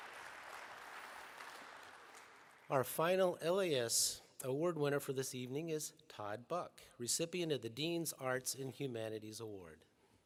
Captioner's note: applause